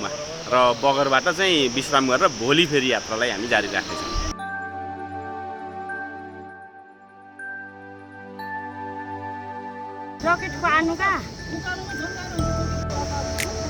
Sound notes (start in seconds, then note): 10.2 indistinct conversation